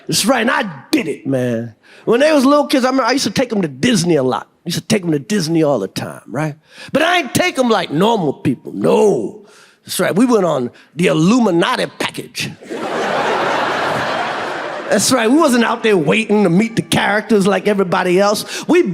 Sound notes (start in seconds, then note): 12.6 audience laughs